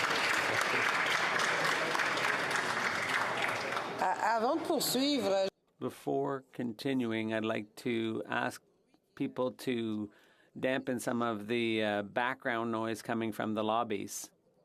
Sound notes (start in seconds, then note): 7.7 speaking French